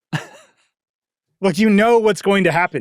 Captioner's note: laughing